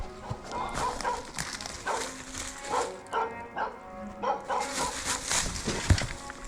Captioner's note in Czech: psi štěkají ze zdola pod útesem